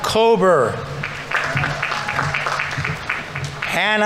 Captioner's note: audience applauding; audience members cheering